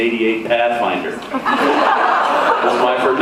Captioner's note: laughs